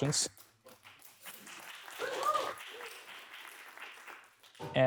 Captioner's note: applause